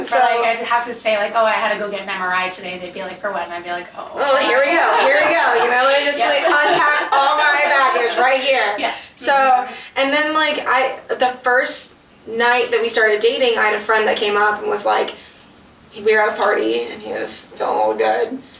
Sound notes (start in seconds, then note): 4.2 laughs; 5.8 both laugh